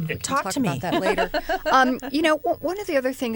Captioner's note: laughter